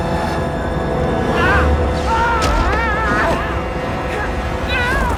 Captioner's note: yells